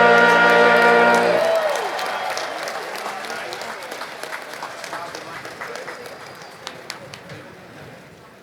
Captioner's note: applause